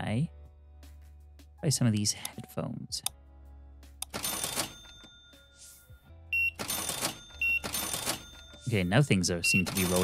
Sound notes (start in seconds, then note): 6.3 beeping